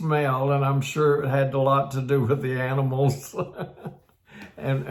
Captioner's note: laughs